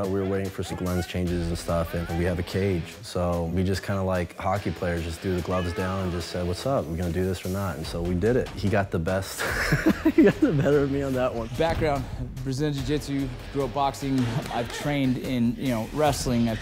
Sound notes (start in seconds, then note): 9.3 laughs